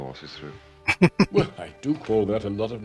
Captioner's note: chuckling